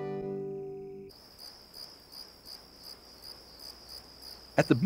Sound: crickets chirping

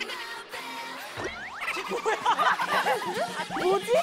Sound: cracks up

